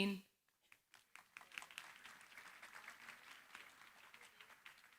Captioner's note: applause